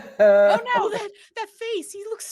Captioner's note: person laughing